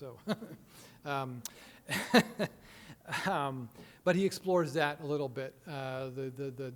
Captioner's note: chuckling